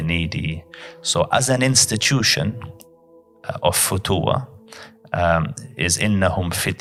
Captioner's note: Arabic